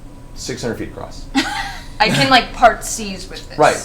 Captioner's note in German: alle lachen